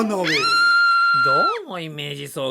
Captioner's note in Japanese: 叫び声